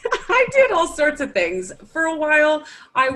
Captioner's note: laughs